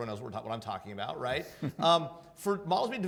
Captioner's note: laughing